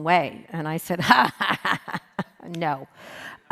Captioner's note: laughs